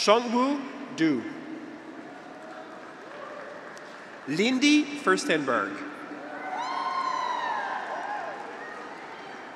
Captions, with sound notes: Chongwu Du. (graduates cheer) Lindy Firstenberg. (graduates cheer)